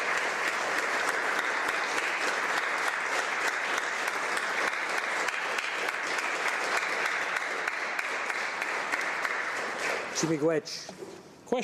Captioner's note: applause